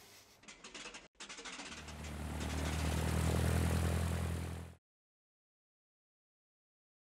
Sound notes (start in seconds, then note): 1.9 aeroplane engine drones